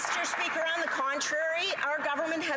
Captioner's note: some Applause